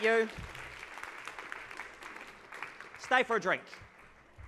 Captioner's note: audience claps